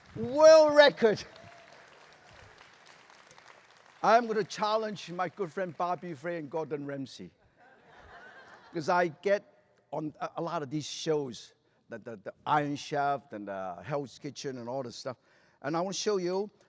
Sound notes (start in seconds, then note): 7.5 laughter